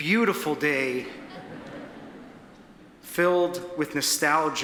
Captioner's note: audience laughs